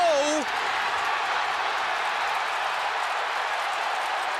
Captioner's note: cheering